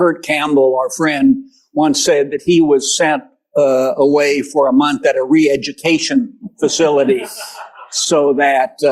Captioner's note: laughter